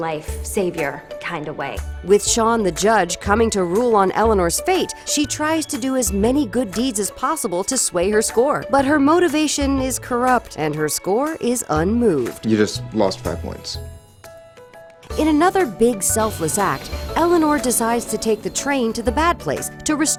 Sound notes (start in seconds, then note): none